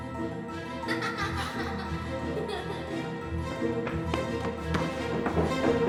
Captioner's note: child laughing